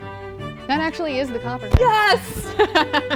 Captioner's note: laughter